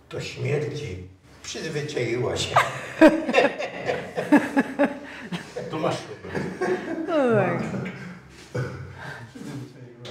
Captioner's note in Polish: śmiech